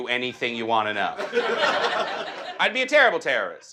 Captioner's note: audience laughs